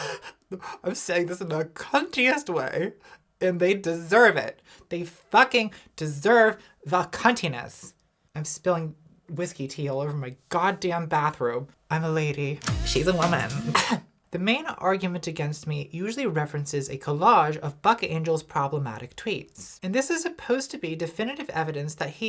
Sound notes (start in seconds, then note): 0.2 laughing; 12.6 pop music; 13.4 coughs